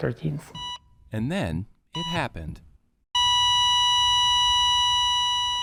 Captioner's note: EKG beeping